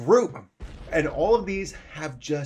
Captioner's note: explosion